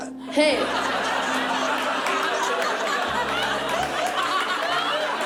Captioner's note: laughter